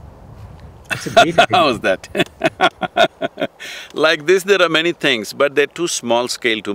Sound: laughs

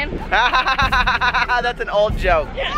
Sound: laughs

